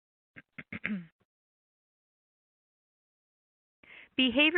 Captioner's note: clearing throat